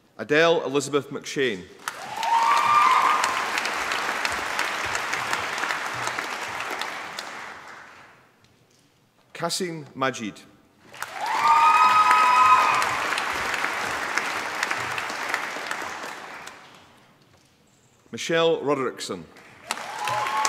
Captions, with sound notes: Adelle Elizabeth McShane. (APPLAUSE) Kaseem Majeed. (APPLAUSE) Michelle Roderickson.